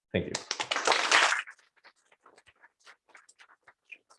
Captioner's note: applause